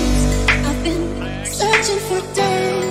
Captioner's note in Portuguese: Mais conversa no fundo